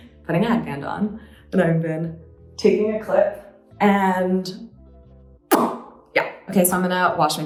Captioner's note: lip smacking